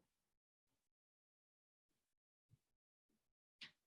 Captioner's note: silence